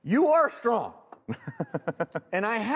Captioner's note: laughs